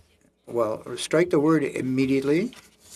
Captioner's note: speaking French